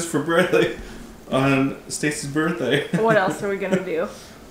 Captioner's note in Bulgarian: смее се